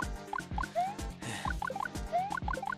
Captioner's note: sigh